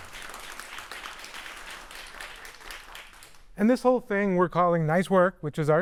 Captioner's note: applause